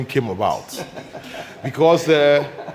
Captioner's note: laughs